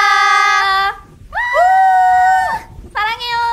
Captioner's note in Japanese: 歓声